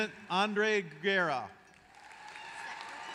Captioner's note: applause